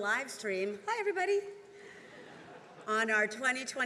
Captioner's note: attendees laughing